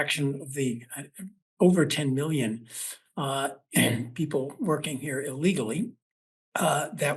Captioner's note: cough